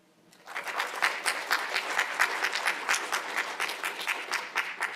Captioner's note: attendees applauding